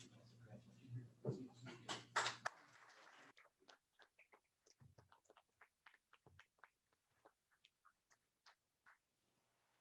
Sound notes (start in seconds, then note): 2.0 applause